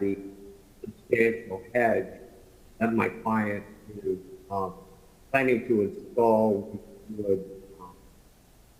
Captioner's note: ~distortion~